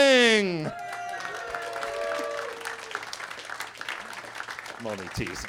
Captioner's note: attendees clapping and cheering